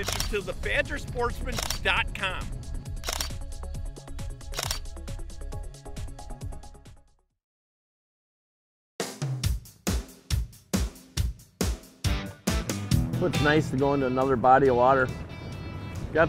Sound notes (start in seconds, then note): 2.9 camera shuttering; 9.3 country music